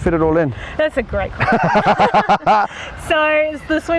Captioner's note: laughs